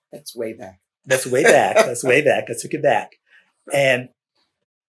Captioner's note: laughter